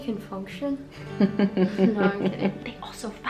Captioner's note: laughs